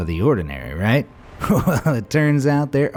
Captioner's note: laughs